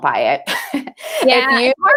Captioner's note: chuckles